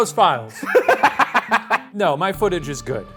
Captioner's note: laughs